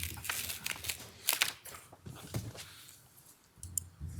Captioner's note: paper rustling